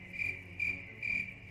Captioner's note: crickets chirping